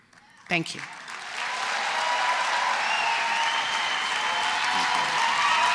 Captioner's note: applause